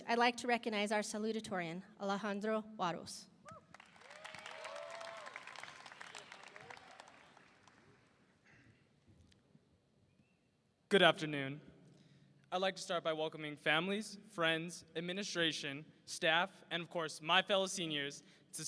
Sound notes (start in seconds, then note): 3.6 audience applauding; 3.7 audience cheering